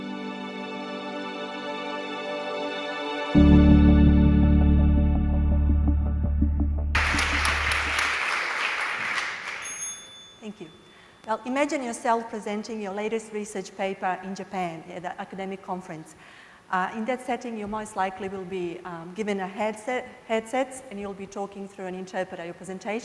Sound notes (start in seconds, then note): 0.0 background music; 6.9 applause; 9.3 bell ringing